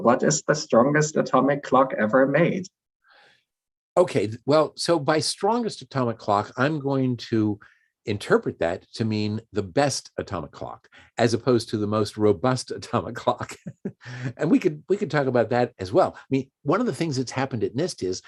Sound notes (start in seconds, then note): 13.4 chuckles